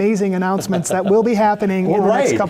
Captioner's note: laugh